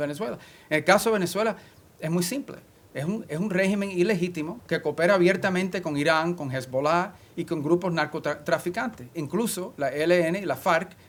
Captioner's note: spanish